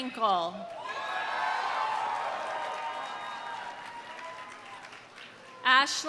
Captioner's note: audience cheering; audience applauding